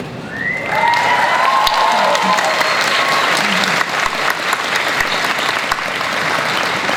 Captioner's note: audience cheering and applause